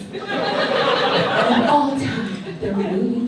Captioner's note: audience laughs